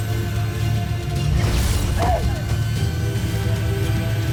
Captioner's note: weapon blast; grunts